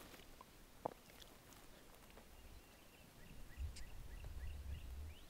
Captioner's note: turkey calling